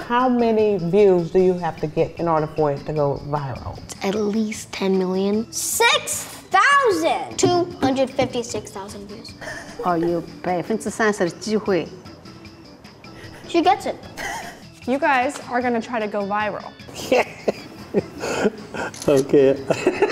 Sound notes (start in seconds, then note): 16.9 laughing; 18.9 camera clicks; 19.9 laughs